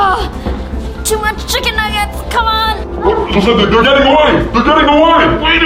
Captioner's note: groans